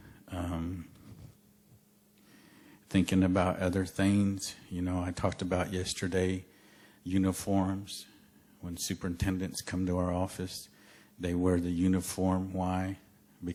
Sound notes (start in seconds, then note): none